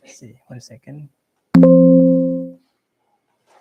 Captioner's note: bling